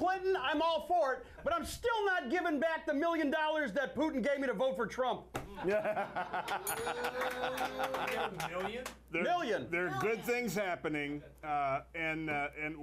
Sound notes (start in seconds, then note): 9.1 scattered Applause